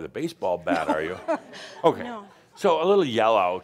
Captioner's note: chuckling